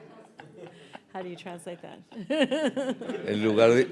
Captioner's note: audience laughing; laughing; speaking in Spanish